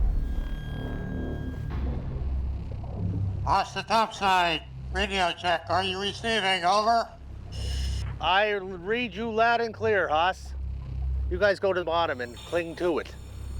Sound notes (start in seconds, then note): 1.6 tense music plays; 2.9 speaking over radio